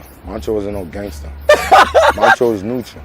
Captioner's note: laughing